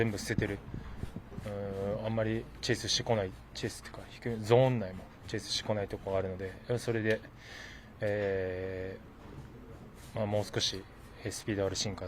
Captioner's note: speaking in foreign language